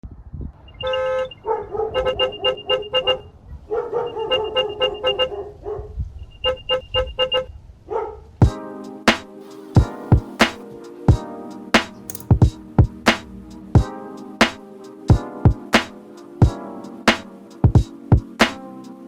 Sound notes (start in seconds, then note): 6.4 honks suspiciously